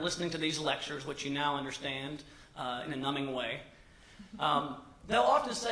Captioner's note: laughter